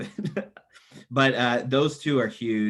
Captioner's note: laughs